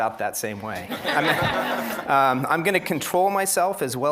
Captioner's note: laughter